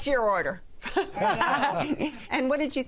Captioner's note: laughter